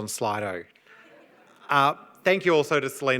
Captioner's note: audience laughs